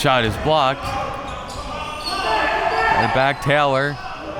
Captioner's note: audience chattering and yelling